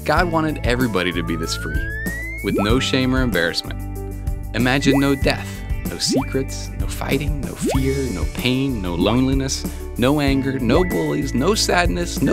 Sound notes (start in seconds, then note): 1.1 slide whistle; 4.9 bubble pop